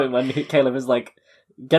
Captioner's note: laughs